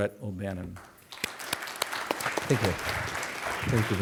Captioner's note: applause